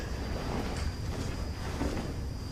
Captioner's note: none